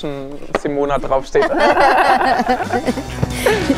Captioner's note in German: Sie lachen